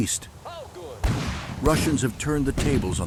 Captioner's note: artillery firing